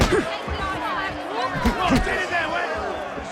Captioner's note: grunting